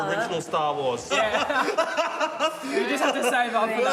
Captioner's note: laughs